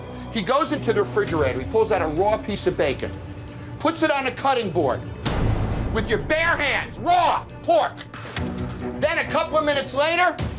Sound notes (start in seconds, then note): 5.1 hand banging